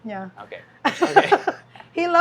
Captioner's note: laughs